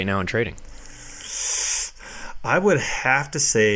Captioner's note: deep sigh